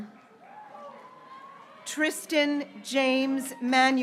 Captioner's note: graduates cheering